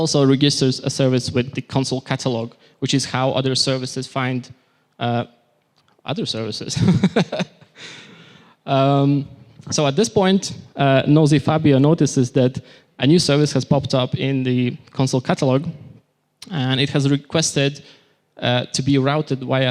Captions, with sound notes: reduces a service with the Consul catalog, which is how other services find... other services. [Laughter] So at this point, nosy Fabio notices that a new service has popped up in the Consul catalog, and it has requested to be routed by a